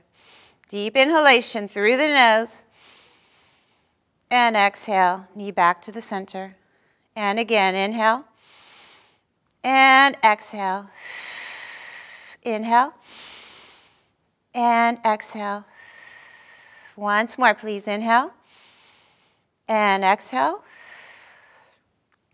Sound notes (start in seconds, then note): 8.4 inhaling; 11.0 exhaling; 13.0 inhaling; 15.7 exhaling; 18.5 inhaling; 20.7 exhaling